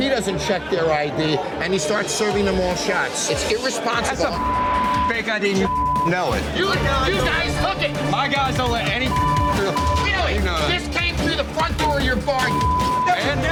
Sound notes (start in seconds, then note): 5.5 beep; 9.0 beep; 12.5 beep